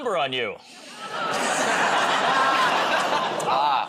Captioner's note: laughter